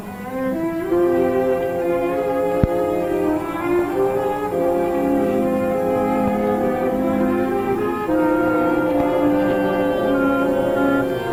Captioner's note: gentle music; dramatic chords; gun humming